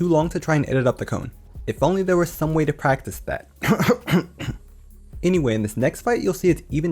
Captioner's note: ahem